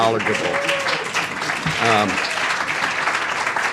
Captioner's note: applause